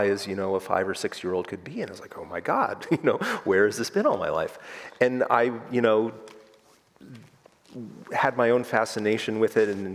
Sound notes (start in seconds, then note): 3.1 chuckles